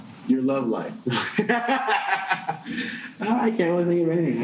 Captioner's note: laughing